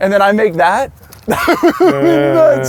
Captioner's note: laughs